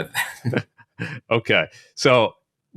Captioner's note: participants laughing